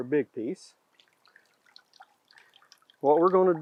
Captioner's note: water dripping